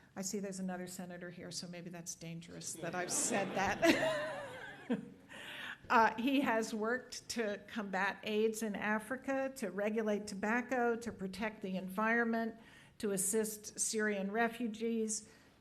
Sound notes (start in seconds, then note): 2.8 laughing